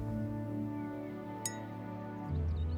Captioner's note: clink